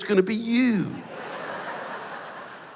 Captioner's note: laughter